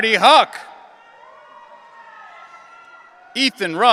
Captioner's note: audience cheering